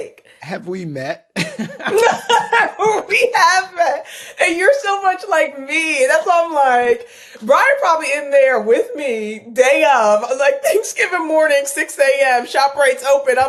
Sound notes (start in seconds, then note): 1.4 laughing